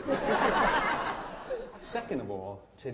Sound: audience laughs

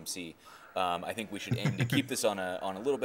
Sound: chuckling

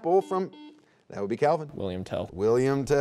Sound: buzzer beeping

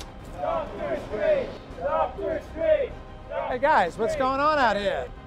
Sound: Cheering "Dr. Strange"

